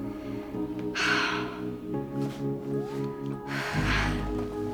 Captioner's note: exhales